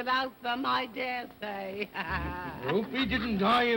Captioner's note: laughing